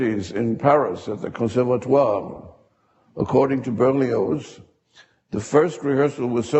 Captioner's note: speaks a foreign language